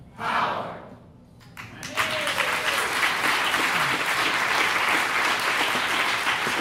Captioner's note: applause